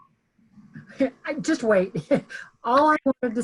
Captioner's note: laughing